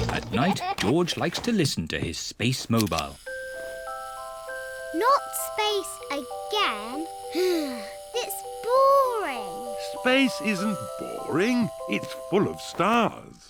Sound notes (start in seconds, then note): 7.4 sighs